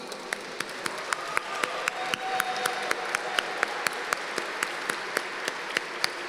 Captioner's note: applause